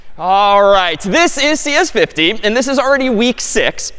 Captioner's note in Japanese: none